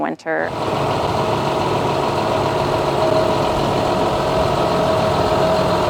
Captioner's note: machine noise